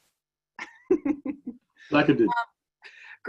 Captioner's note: laughs